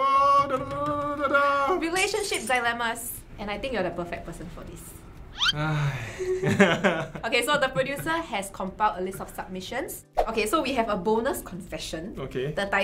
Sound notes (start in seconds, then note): 0.1 making weird noises; 5.5 sighs